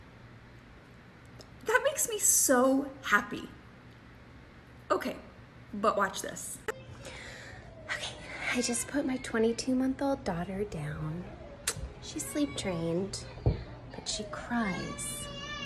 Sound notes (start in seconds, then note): 11.2 baby cries; 15.4 baby wails